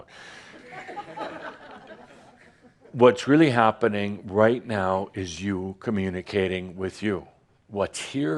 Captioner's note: some giggles